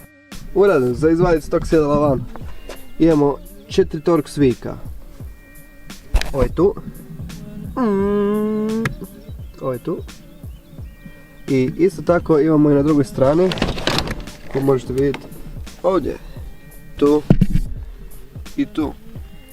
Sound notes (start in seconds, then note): 7.5 funny noises